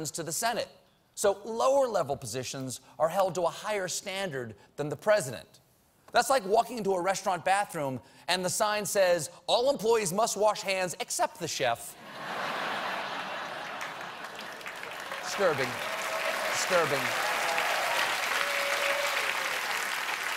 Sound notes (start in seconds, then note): 8.6 laughter; 12.9 applause